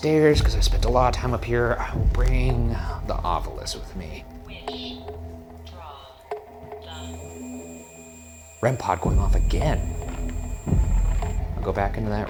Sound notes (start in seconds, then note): 6.9 REM-Pod beeping; 11.2 suspenseful music